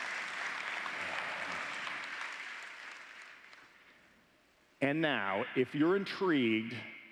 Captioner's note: applause